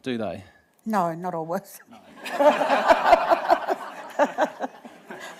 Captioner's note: laughter